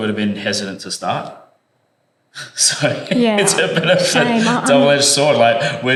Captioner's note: laugh